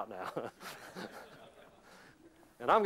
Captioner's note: laughter